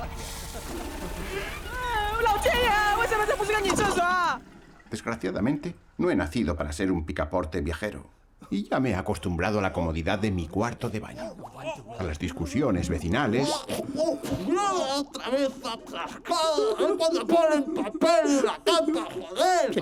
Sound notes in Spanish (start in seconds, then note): 0.2 hombres riendo; 1.7 hombre 3 hablando en japonés